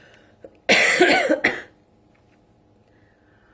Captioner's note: coughs